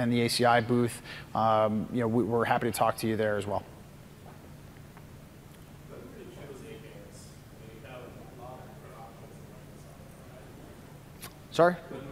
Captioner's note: off mic